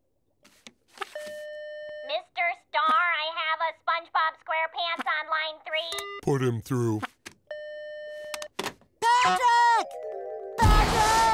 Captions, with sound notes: Mr. Starr, I have a SpongeBob SquarePants -on line three. -Put him through. [beeps] Patrick! Patrick!